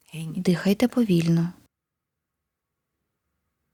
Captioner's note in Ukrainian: пауза